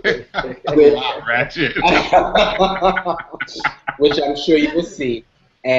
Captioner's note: laughter